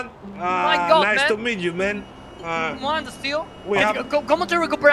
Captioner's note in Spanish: acento inglés